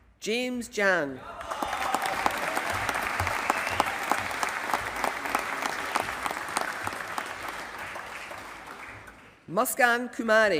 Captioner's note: applause